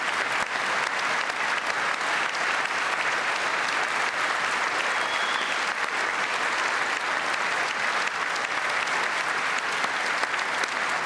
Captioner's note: cheers and applause